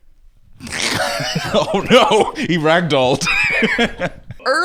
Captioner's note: laughs